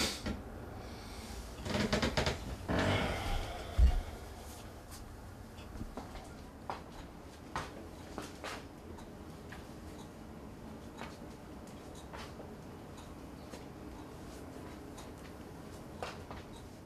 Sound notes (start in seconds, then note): 1.6 creaking; 5.7 footsteps